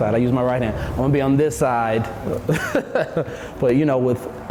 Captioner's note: chuckles